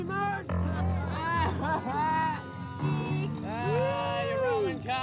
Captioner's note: teens taunting